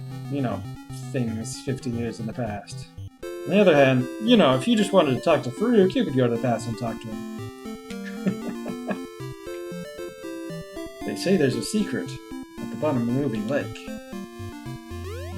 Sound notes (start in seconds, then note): 7.9 chuckles